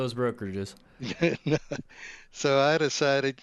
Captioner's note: laughs